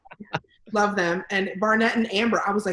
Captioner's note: laughs